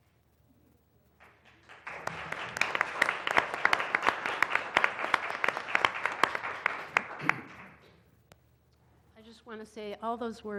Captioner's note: applause